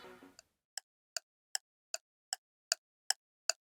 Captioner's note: clock ticking